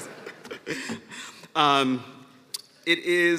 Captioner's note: laughter